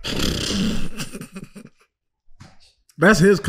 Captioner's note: group laughing